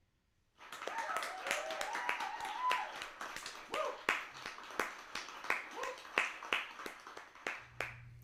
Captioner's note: applause and cheers